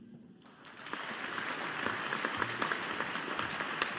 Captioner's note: audience applauding